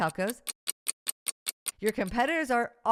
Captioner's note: clock ticking